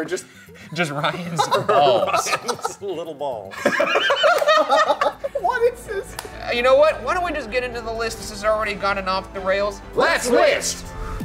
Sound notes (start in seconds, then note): 0.6 laughing